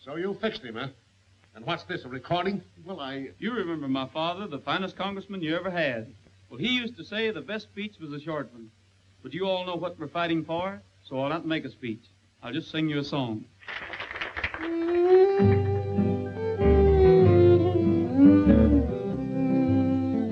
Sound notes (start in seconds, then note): 13.6 audience applauding; 14.7 soft music